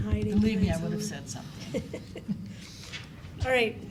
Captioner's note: chuckles